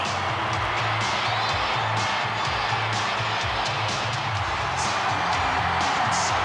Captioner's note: crowd cheering continues; energetic music continues